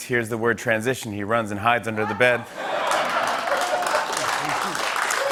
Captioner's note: laughter